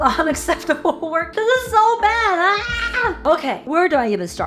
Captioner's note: screams in corporate disappointment